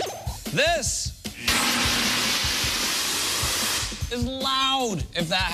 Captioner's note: alarm sounding